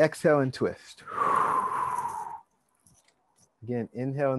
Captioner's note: exhale deeply